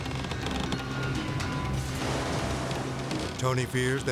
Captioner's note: house creaking